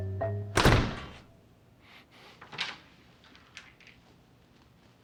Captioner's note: door shutting closed